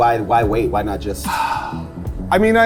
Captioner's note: sighing